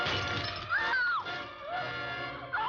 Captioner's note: screaming